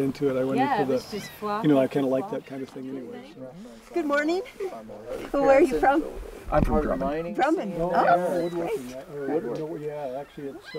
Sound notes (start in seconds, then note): 4.1 voiceover; 6.4 voiceover